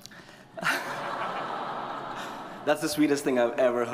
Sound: audience chuckle

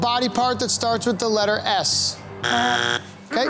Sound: buzzer sounding

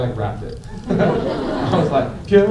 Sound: laughter

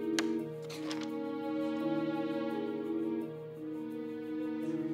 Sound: none

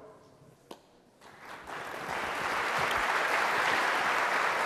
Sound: applause

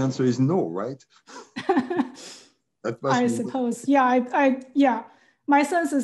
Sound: laugh

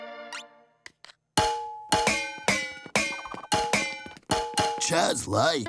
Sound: banging

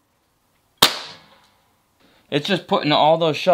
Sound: gun fires

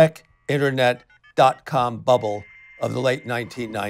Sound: modem dialing

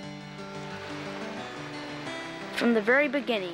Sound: water babbling

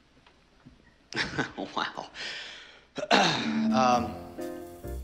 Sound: nervous chuckle

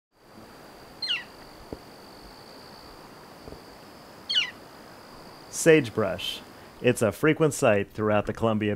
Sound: bird chirping

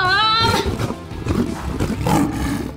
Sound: growling

